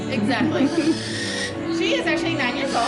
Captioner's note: owl squawks